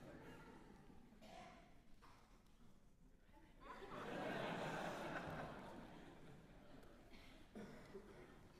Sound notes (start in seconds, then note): 3.6 laughter